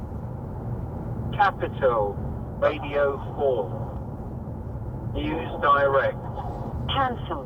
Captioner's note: voice from the radio